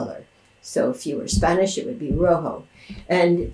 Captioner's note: speaking in Spanish